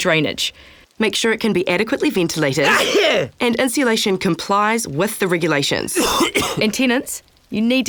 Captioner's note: sneeze